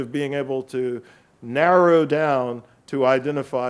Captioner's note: none